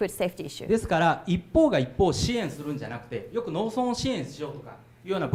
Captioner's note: speaking foreign language